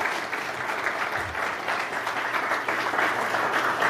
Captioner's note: applause